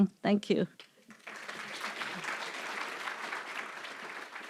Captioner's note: applause